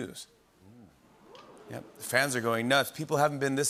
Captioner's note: murmuring